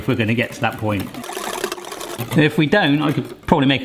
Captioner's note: whisking